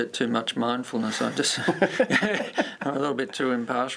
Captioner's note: laughter